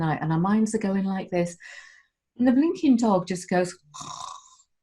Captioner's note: snore!